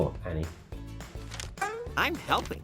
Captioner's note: paper swishing